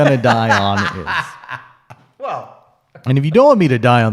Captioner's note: laughs